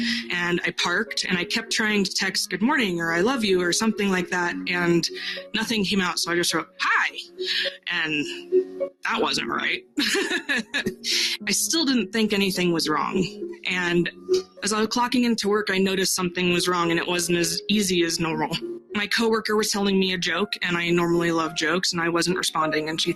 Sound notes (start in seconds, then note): 9.9 laughs